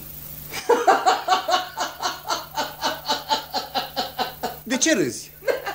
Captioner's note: sound of men laughing